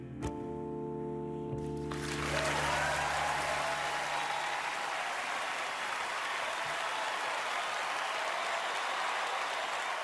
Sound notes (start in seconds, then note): 1.7 song ends; 4.3 cheering, applause